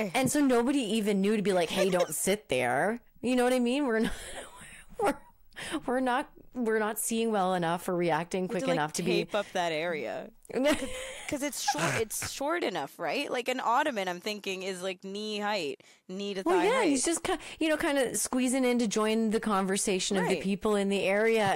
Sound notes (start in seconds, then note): 10.6 laughing